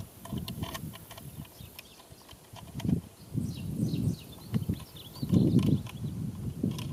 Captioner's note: none